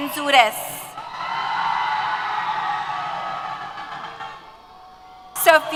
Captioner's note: cheers